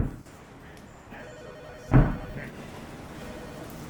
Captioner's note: phone rings